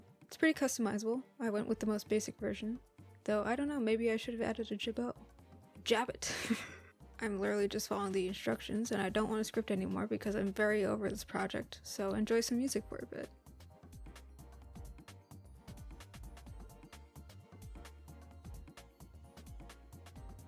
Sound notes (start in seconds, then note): 6.2 laughs